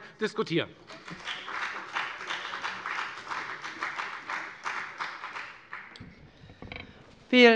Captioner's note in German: Beifall bei der FDP